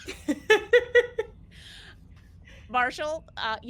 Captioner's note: laughs